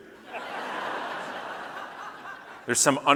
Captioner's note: audience laughing